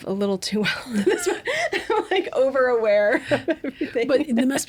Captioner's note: laughing